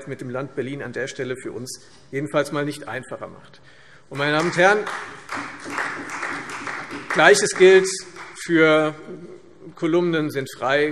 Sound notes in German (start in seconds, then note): 4.1 Beifall Freie Demokraten